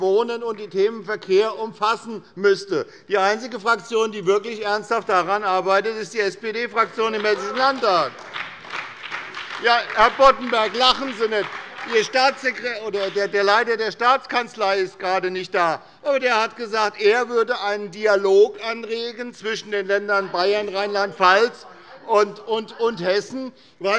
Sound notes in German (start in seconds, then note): 6.8 Beifall bei der SPD